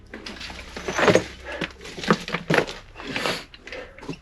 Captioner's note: gear clanging